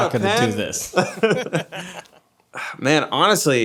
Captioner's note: group laughing